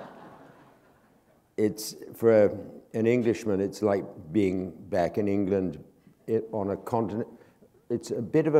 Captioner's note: laughter